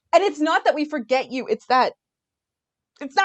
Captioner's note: none